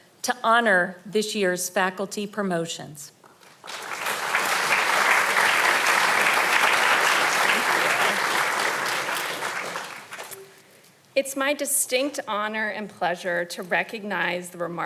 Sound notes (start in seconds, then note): 3.4 audience applauding